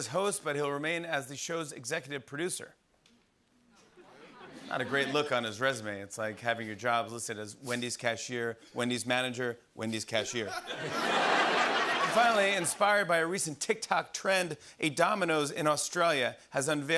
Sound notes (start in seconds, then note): 10.4 laughter